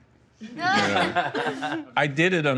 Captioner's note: laughter